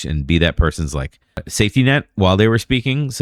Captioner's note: uh